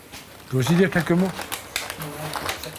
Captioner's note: he speaks French